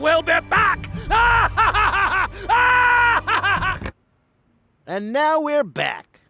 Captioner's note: laughs